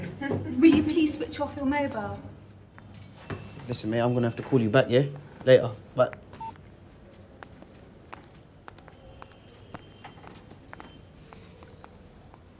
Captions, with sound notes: will you please switch off the mobile listen mate, I'm gonna hav to call you back, yeah later bye [phone beep]